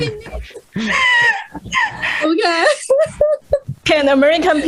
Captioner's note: risas